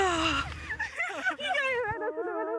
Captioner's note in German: Lachen